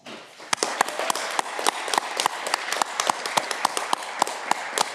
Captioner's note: audience clapping